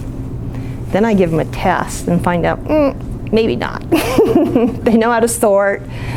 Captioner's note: laughs